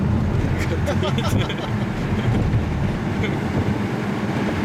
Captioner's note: laughs